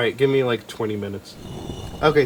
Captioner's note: brick slide transition